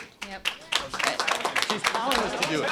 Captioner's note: applause